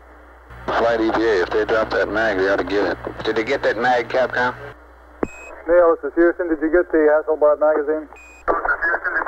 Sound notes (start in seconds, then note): 0.6 mission Control Audio